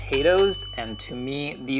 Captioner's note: bell dinging